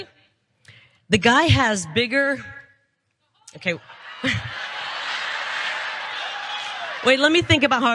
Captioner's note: laugh